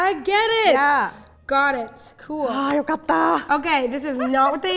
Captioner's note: speaking in Japanese